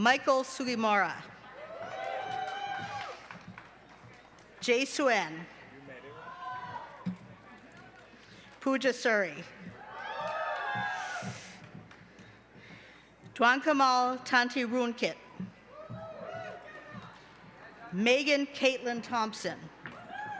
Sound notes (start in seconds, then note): 1.4 cheering